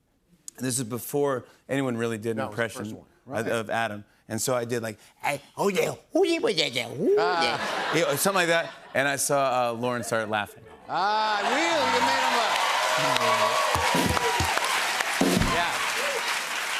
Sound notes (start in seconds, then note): 11.2 cheers and applause